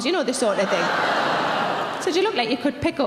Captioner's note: audience laughing